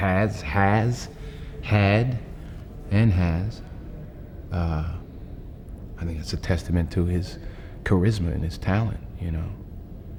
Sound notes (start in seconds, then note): none